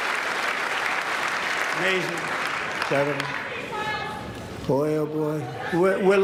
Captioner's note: applause